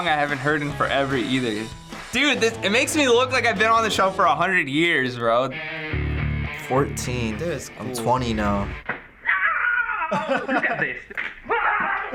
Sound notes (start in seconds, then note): 9.1 man shouts; 9.4 laughs